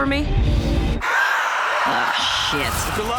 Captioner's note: vampire screams